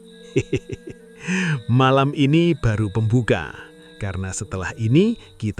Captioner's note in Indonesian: tertawa